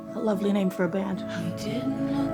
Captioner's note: laughing